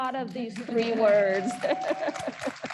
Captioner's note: audience cheers; audience applauds